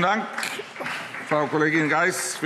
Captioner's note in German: Vereinzelter Beifall